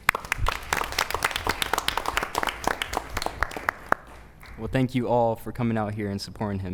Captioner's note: applause